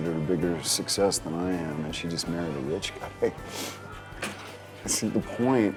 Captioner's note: chuckles